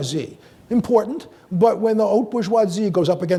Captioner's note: speaks in foreign language